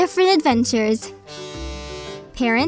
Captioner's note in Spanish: suena la bocina